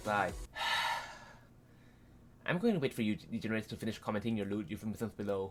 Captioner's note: sigh